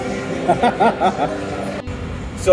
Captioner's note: laughs